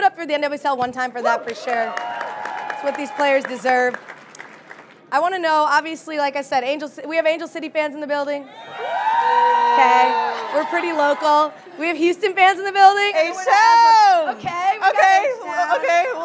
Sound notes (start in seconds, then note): 8.5 audience cheering; 9.0 booing